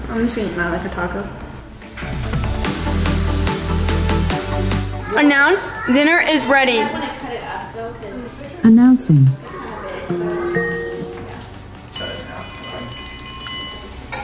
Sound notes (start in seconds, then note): 2.0 موسيقى راقصة مبتهجة; 10.1 Alexa chimes